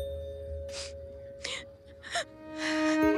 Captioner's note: Aditi crying